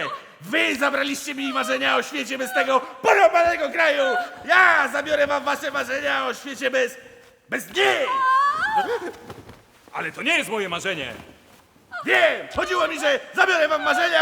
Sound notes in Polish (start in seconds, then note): 7.9 krzyk kobiety